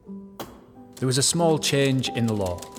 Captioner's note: typewriter keys clacking